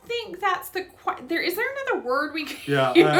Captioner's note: laughs